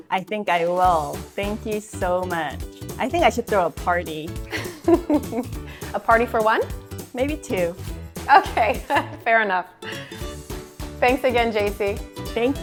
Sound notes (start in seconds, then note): 4.5 chuckles